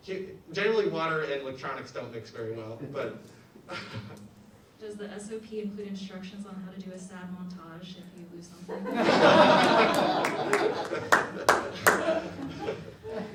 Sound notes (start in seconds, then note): 8.7 audience laughs